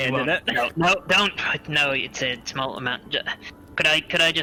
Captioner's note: sigh